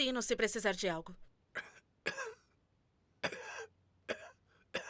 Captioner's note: reginald coughs